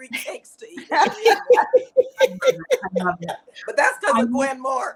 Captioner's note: all laughing